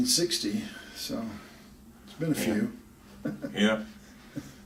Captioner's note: laughs